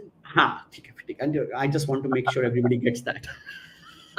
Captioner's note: non-english speech